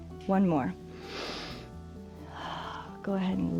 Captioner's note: inhales and exhales